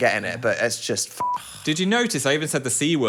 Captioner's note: beep